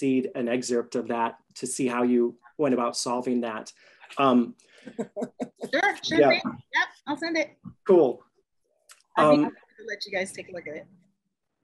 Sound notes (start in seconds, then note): 4.8 chuckles